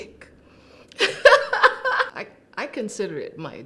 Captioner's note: laughter